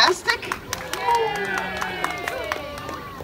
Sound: audience claps; audience cheers

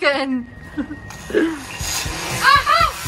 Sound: drone buzzing

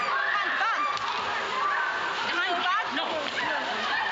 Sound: frenzied, frenetic yelling

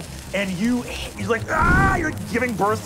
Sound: screaming

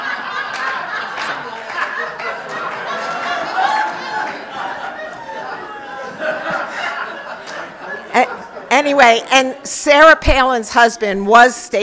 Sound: laughter

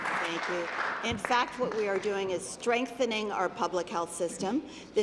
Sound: applause

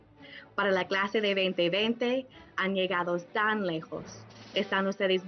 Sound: woman speaks in foreign language

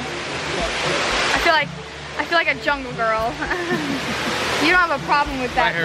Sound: laughs

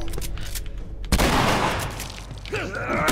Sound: bullet clinks; cocks rifle, shoots; Joel grunts, Hunter groans

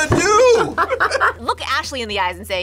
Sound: both laugh

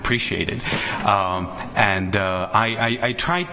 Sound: chuckles

